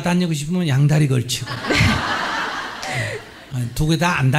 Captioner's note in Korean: 질문자와 청중 웃음